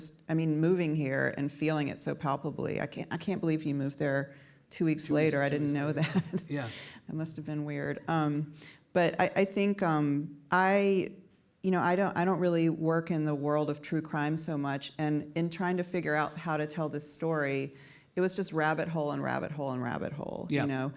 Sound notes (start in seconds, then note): 5.5 chuckles